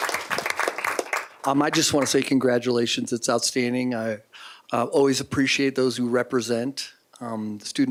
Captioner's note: applause